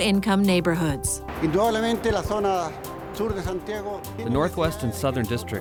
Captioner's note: speaking spanish